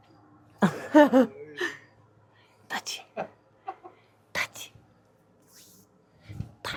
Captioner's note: laughs